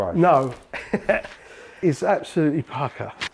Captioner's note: laughing